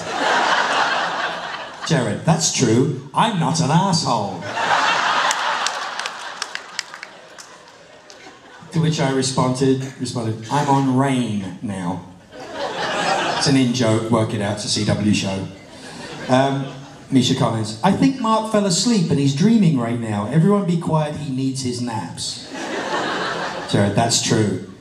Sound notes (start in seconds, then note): 0.1 laughter; 4.4 roaring laughter and applause; 22.4 laughter